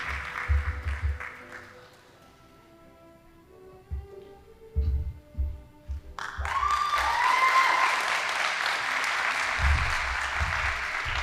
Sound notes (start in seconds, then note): 1.4 band playing; 6.1 audience applauding